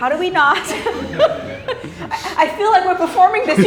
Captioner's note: everyone laughs